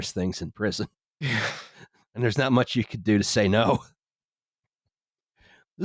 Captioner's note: sigh